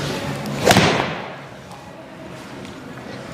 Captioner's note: indistinct background music; club thuds; indistinct background music